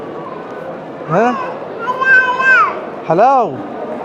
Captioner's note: Arabic